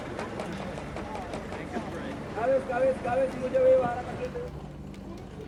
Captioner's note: speaking foreign language